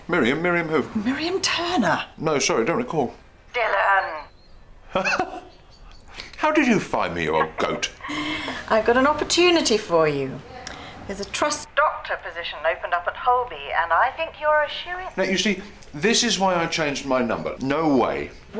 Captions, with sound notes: Miriam. Miriam who? - Miriam Turner. - No. Sorry, I don't recall. - Dylan! (LAUGHS) How did you find me, you old goat? I've got an opportunity for you. There's a Trust doctor position opened up at Holby, and I think you're a shoo-in. You see, this is why I changed my number. No way.